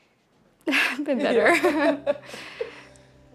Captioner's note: laughing